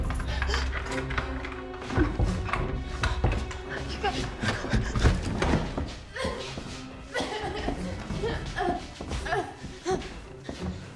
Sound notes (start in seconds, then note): 0.0 lock rattling; 0.0 suspenseful music; 6.7 Claire groaning